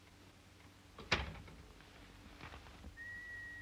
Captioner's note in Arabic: يغلق الباب